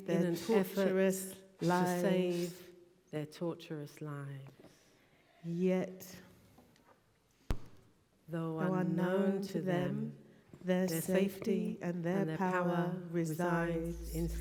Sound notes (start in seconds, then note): 5.8 voices align in unison